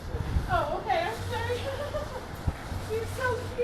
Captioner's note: laughs